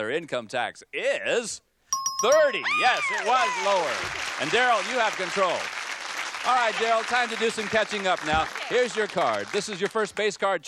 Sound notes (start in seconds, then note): 2.6 screams; 2.8 applause